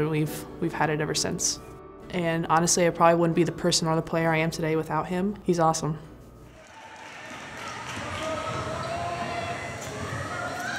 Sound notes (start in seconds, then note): 6.5 crowd shouts